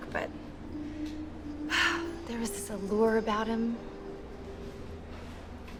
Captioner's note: sigh